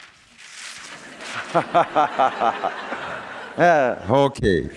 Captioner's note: laughter